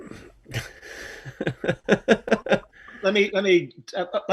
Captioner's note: laughs